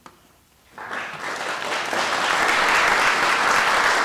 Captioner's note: applause